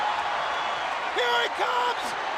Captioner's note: crowd cheering